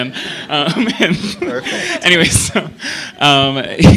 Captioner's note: laughter